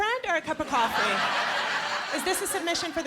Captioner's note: laughter